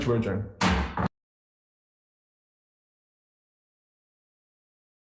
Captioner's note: gavel pounding